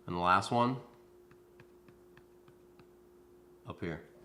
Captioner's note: tapping on forehead